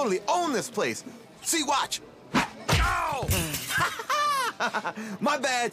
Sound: laughs

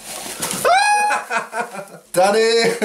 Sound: packaging rustles; screams; laughs

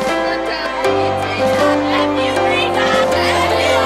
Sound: girls cheering

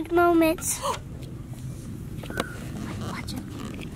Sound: gasps

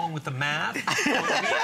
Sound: laughter

